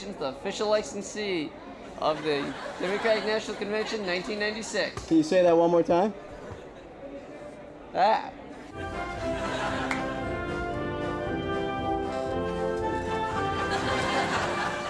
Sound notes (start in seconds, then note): 7.9 stammers; 8.7 patriotic instrumental music; 8.9 audience laughing